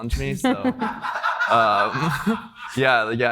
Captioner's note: everybody laughing